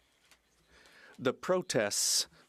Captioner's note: speaking French